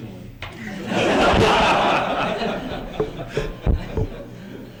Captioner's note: laughter